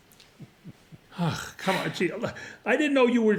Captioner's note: ray sighs